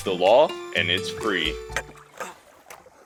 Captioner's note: tired grunting